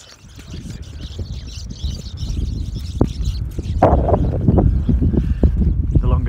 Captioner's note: sound of birds discussing the best rocks